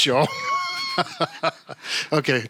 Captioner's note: laughing